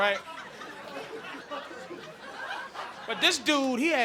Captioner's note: audience laughing